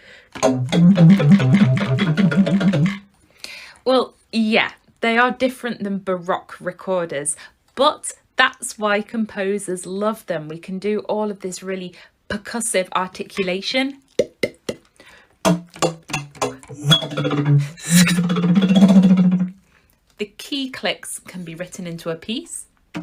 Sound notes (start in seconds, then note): 14.1 pdtnk pdtnk pdtnk